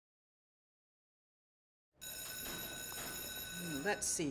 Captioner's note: class bell rings